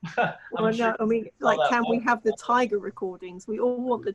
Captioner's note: laughing